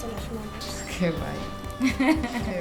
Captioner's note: laughs